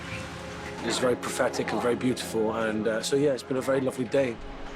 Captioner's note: none